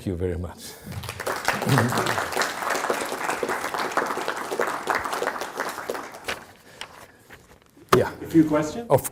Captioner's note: audience applauding